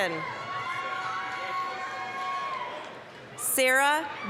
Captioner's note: applause, cheering